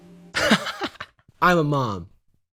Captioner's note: laughs